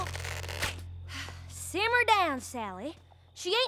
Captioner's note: sighs